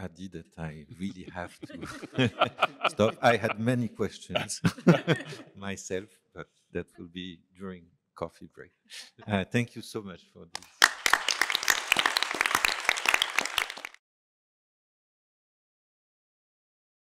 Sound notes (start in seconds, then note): 10.5 applause